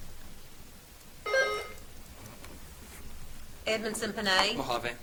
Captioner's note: buzzer beeps